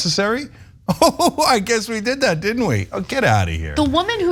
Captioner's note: laugh